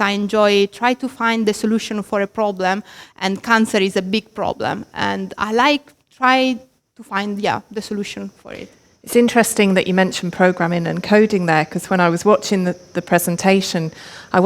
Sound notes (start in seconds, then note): none